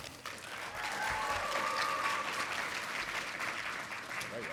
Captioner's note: audience applauding